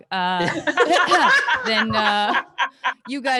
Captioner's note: all laugh